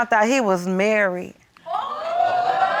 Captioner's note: audience exclaims